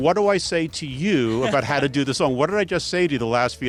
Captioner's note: laughs